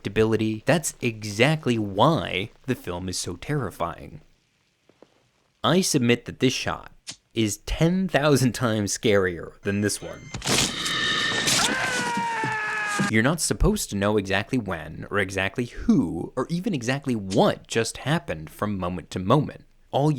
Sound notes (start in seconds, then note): 10.2 monster shrieking; 10.7 doctor screaming